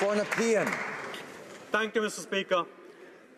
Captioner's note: applause